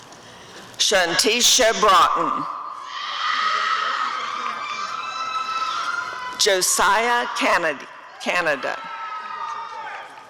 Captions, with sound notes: Shunteshia Broughton [audience cheering] Josiah Canada [audience cheering]